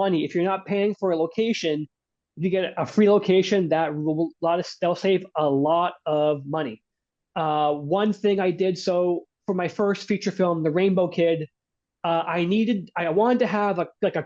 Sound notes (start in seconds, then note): none